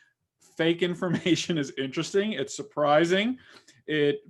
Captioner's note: chuckles